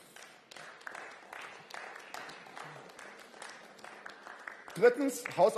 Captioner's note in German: Beifall